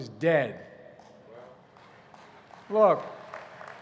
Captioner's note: applause